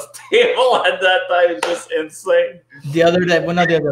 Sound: laughing

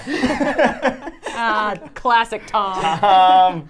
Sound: laugh

